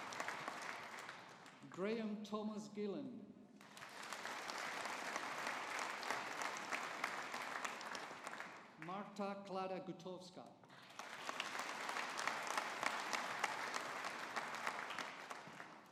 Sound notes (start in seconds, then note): 3.6 audience applauding; 10.8 audience applauding